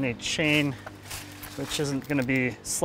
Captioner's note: leaves rustling